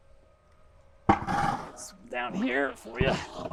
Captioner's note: bucket thudding